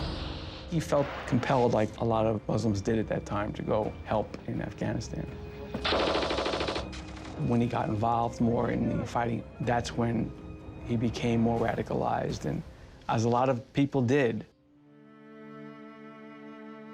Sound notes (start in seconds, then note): 5.8 machine gun firing